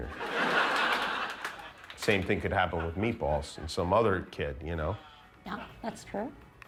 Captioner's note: laughter